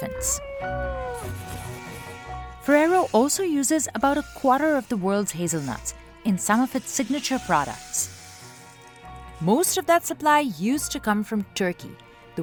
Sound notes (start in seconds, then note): 0.3 elephant trumpets softly; 1.8 hazelnuts clattering